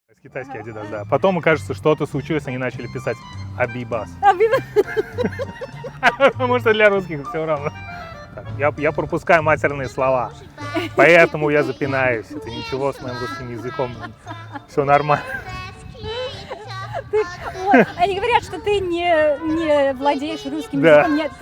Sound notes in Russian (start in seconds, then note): 4.2 оба смеются; 13.0 оба смеются